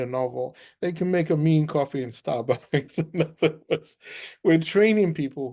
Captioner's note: laughs